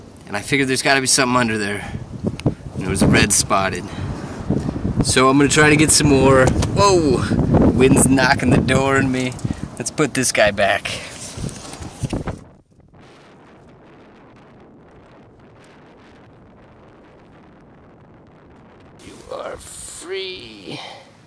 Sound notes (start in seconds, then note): 6.4 thunk; 12.8 wind blowing